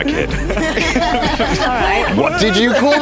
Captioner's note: laughter